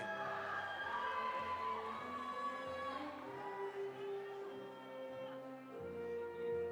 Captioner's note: audience cheering; audience applauding